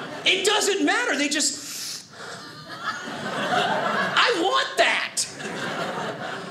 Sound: sniffing

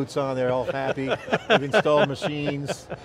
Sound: laughing

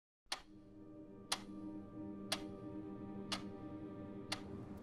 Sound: clock ticking

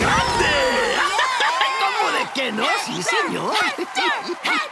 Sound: laughing

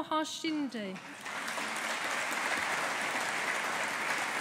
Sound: audience applauding

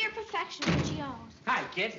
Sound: door closes

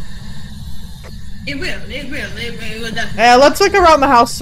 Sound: also in a funny voice

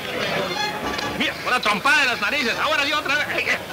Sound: speaking Spanish

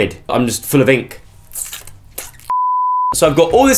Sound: squid noises

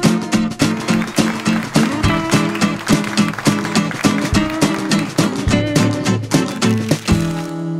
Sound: applause

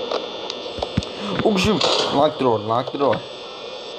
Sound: gasp

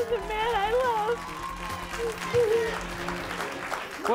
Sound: audience applauds

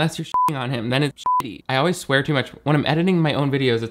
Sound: beep

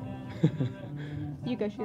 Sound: laughs

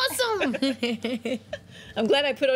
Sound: laughter

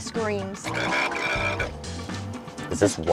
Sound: faucet gurgling

